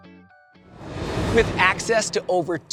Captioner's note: transition whooshes